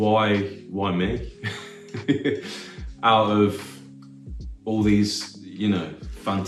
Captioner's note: laugh